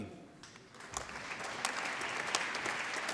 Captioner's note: applause